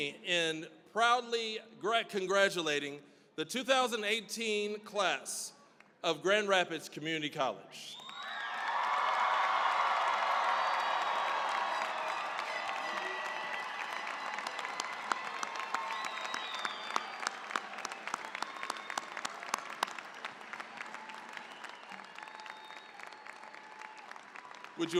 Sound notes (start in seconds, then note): 8.4 cheering, applause